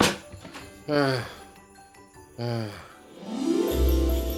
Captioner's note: Patrick groans; upbeat ensemble music